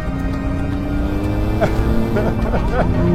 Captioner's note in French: Rire